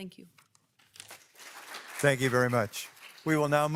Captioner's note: audience clapping